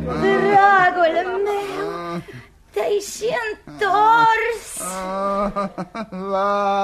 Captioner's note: laughter